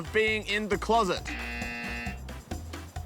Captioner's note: buzzer